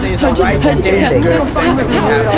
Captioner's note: alien gibberish